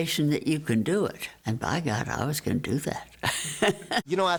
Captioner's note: laughs